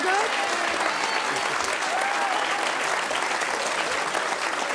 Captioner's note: audience applauds